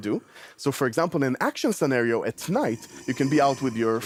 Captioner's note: zombie growl